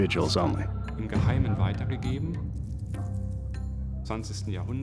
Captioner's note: non-english speech